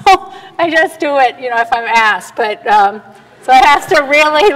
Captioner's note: laughs